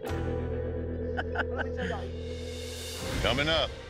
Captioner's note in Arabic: يضحك